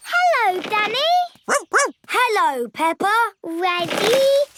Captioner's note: snorts; barks